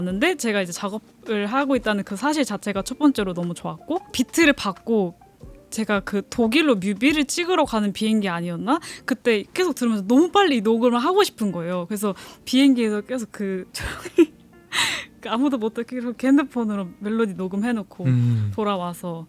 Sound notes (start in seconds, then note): 14.3 laughs